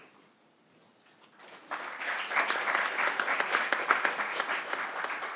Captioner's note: crowd applauding